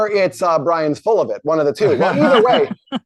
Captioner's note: laugh